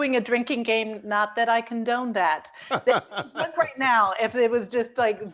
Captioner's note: laughter